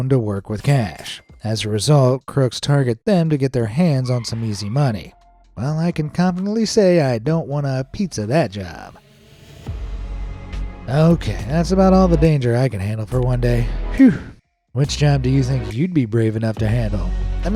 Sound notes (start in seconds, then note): 10.0 gentle upbeat music; 13.9 exhales sharply